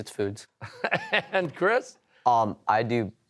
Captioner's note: laughing